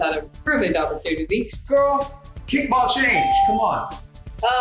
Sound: ding

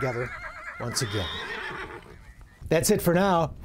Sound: horse neighs

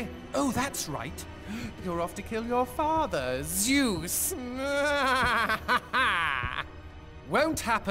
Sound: laughs

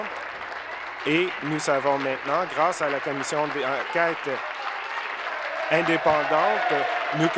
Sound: applause

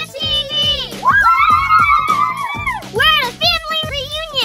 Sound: cheering

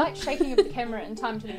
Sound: laughs

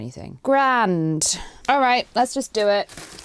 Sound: sarcastically

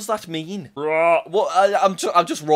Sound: attempting to roar

